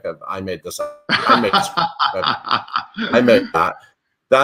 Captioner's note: laughs loudly